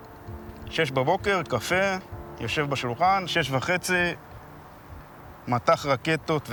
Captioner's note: speaking Hebrew